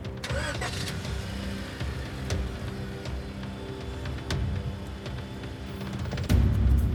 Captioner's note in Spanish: Ruido al prender el motor